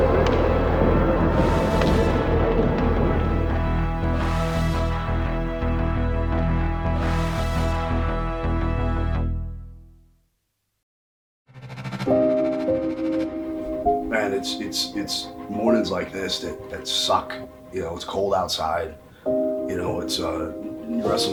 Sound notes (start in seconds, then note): 0.2 smacking sound; 10.0 silence; 11.7 sombre music playing